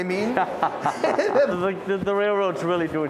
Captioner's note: laughs